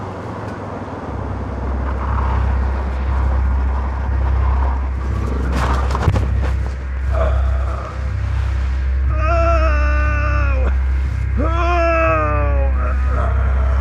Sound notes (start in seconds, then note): 1.1 tires skidding on dirt; 7.1 crying out